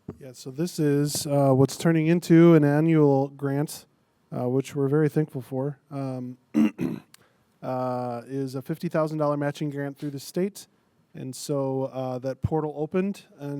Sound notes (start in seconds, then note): 6.5 clears throat